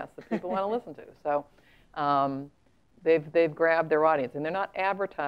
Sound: laugh

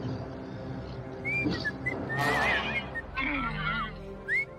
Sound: whistling

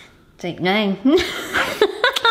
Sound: laughs

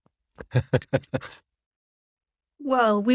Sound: laughing

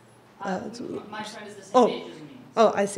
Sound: voiceover

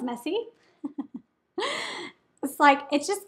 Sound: woman giggling

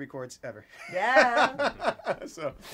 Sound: laughs

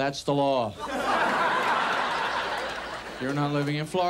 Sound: audience laughs

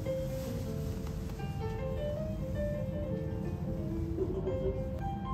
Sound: laughs

